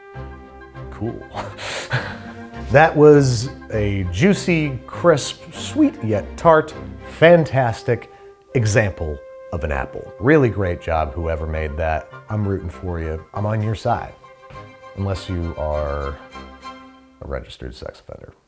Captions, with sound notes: Cool. (laughs) That was a juicy, crisp, sweet yet tart, fantastic example of an apple. Really great job, whoever made that. I'm rooting for you. I'm on your side unless you are a registered sex offender,